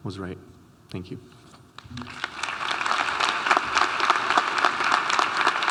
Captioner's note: audience applauding